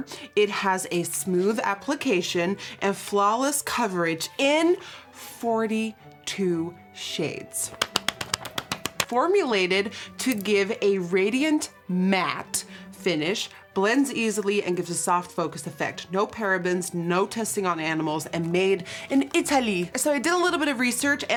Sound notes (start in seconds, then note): 7.7 claps